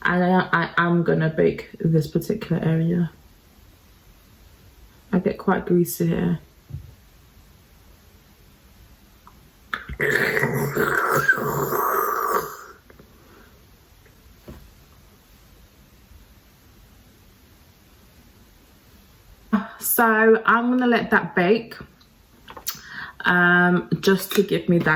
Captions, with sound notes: I then I am gonna bake this particular area. I get quite greasy here. (slurping) So I'm gonna let that bake just to give me that,